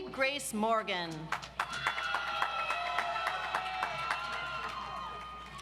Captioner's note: audience applauds